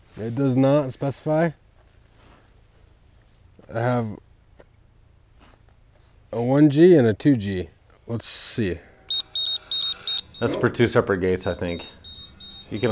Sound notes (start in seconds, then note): 9.0 control panel beeping